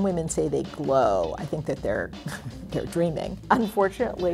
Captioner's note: laughs